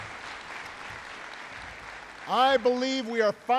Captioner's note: applause